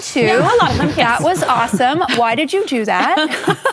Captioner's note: laughter